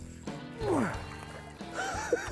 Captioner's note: grunting; laughs